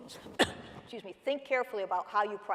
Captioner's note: coughing